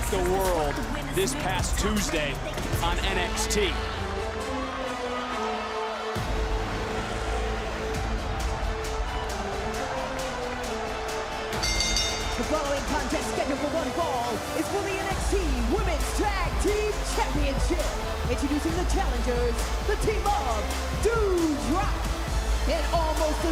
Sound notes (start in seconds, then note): 11.6 bell rings